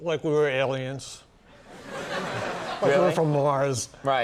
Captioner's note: audience laughing